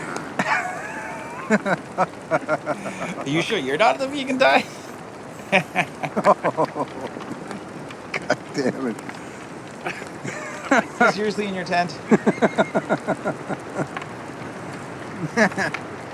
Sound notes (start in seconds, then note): 0.0 both laughing; 5.3 both laughing; 12.0 both laughing